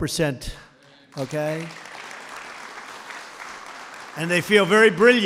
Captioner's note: applause